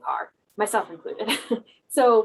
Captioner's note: laugh